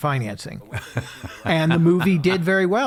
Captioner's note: laughing